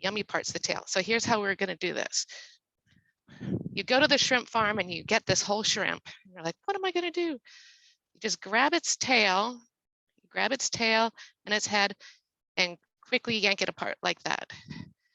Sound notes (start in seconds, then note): none